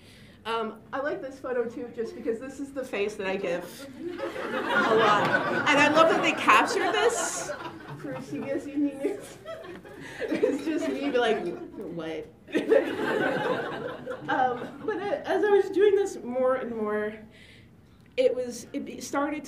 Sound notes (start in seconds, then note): 12.5 laughter